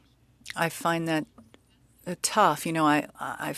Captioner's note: speaking French